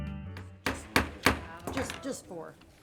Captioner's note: gavel bangs